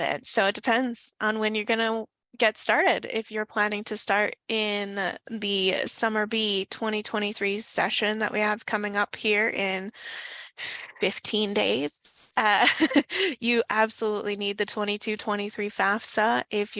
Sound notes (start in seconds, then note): 12.5 chuckles